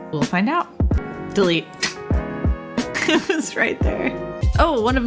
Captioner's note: laughs